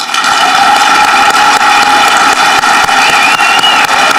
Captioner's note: audience clapping